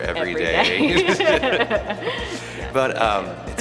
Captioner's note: laughing